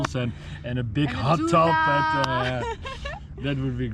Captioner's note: laughs